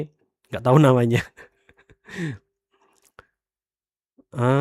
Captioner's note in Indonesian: tertawa